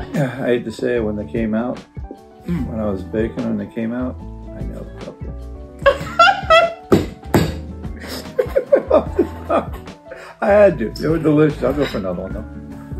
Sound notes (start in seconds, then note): 8.0 laughs